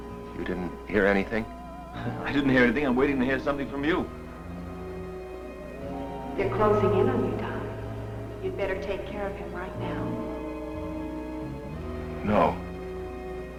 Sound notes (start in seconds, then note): 1.9 laughs; 10.1 tense ominous music